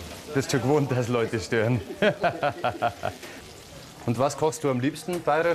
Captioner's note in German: lacht